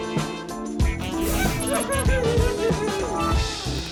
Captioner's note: cackles